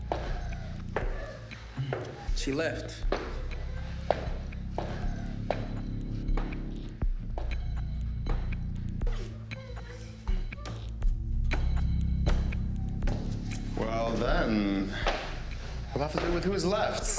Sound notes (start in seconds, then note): 2.9 footsteps tapping; 6.5 dramatic music